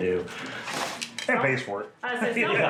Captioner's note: laughs